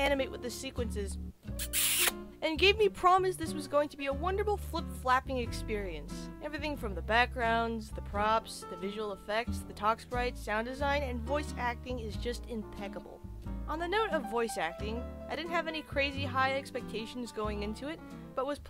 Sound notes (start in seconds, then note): 1.5 chef’s kiss